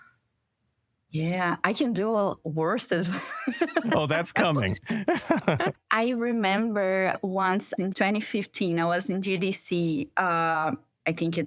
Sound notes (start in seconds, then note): 3.0 laughter